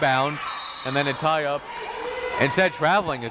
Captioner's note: whistle tweeting